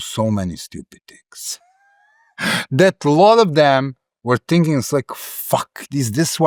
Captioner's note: laugh